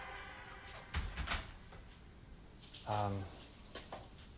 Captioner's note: door closes